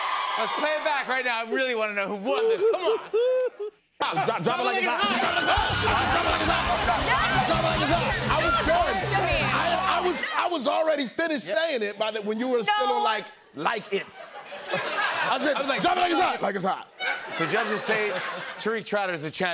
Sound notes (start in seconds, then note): 5.0 bell dinging